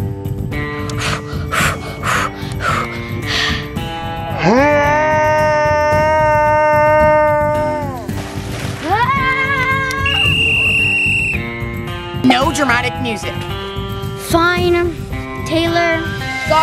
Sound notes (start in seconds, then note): 0.9 pants; 4.2 yells; 9.9 whistle blows